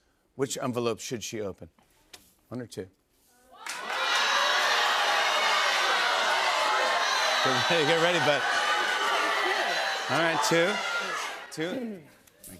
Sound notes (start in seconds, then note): 3.6 audience shouting